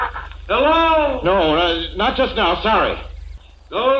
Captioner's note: nervous, calls out